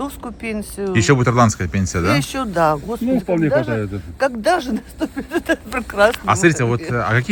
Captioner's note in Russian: смех